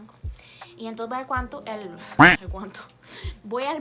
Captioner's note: mispronounce